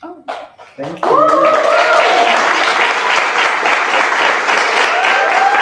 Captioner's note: applause